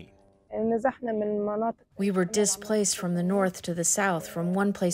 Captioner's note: through translator